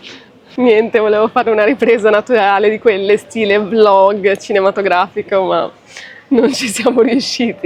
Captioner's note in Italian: risate